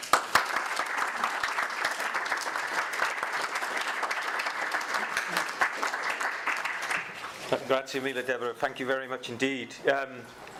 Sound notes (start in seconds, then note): 0.0 audience applause; 7.6 foreign language speaking